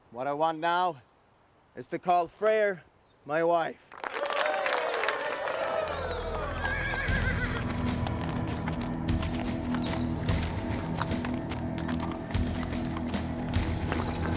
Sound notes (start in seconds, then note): 3.9 audience applauding; 4.0 audience cheering; 6.0 ominous music; 6.3 horse neighs